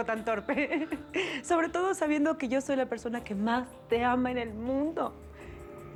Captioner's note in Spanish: Risas